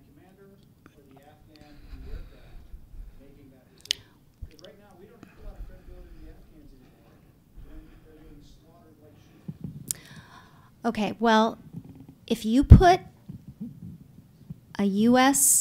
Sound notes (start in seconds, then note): 6.5 off microphone